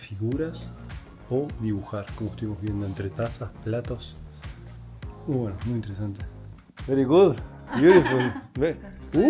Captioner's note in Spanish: risas